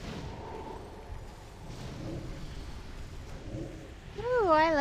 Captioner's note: wind blowing